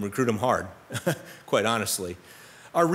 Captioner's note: laughs